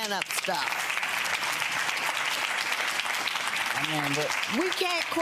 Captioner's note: audience clapping